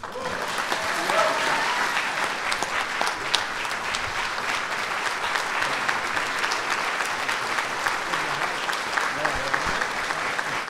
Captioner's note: applause